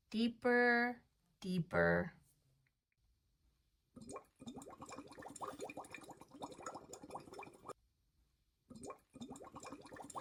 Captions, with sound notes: Deeper, deeper. (water gurgles)